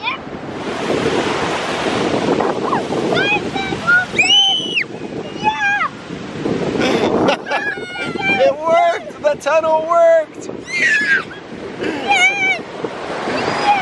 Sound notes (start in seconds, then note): 2.6 kids yelling and squealing; 6.7 laughs